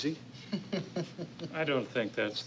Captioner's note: laughter